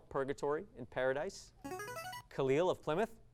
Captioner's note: device sound